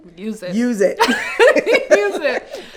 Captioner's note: both laughing